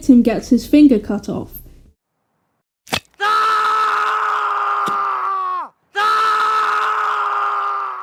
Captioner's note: repeating stock scream sound effect